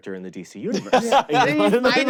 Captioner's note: laughs